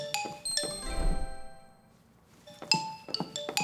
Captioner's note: chime